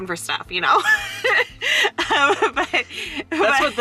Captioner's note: laughing